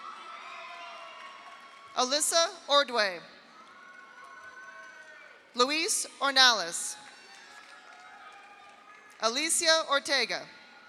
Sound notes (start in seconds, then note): 0.0 audience applauds; 0.0 audience cheers; 3.4 audience cheers; 3.5 audience applauds; 6.9 audience applauds; 7.0 audience cheers